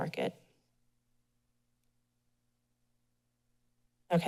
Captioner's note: pause